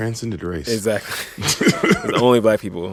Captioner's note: laughter